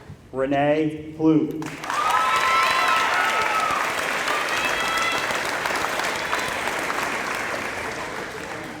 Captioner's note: applause